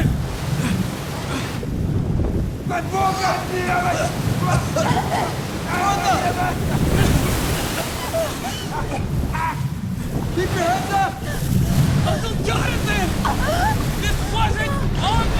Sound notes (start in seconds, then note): 7.4 speaks Russian